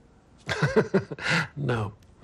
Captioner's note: chuckles